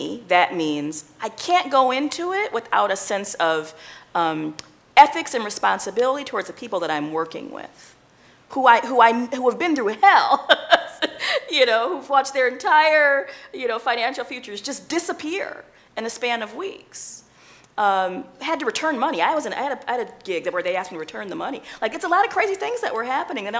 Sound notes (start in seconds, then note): 10.2 chuckling